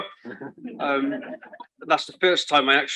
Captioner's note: chuckles